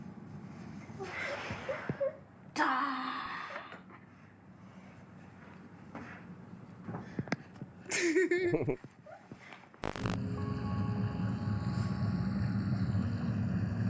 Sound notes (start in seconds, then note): 5.6 laughing; 9.8 slow music